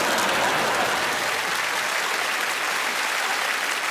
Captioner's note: applause